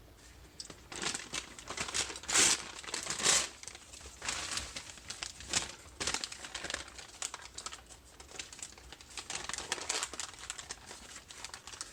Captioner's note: newspaper tearing and crinkling